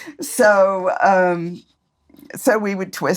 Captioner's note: both laugh